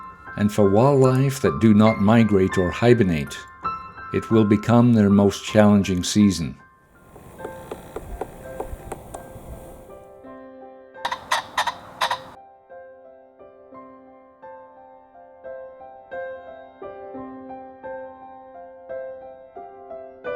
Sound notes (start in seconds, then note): 7.1 woodpecker pecking; 11.0 pheasant calling